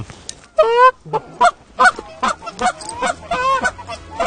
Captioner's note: goose call